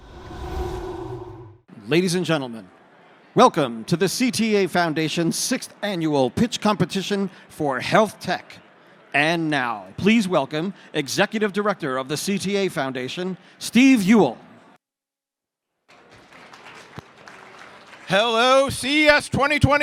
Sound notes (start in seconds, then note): 15.8 applause